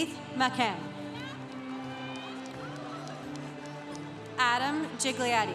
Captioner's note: congregation cheering